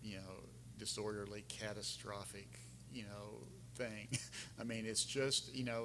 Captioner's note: laughing